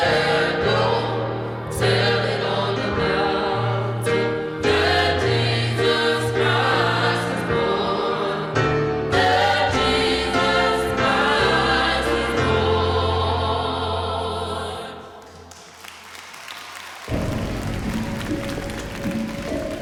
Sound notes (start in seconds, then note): 15.2 applause, cheering; 17.0 dramatic music playing